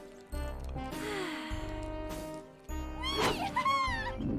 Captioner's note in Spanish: música alegre; Petunia suspira